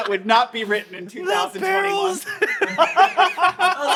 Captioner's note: laughing